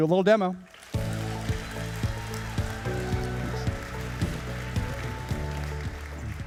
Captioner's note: audience cheering and applauding